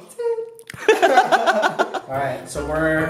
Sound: both laugh

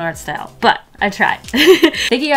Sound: laughs

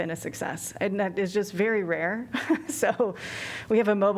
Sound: laughter

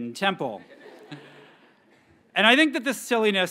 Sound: graduates chuckles

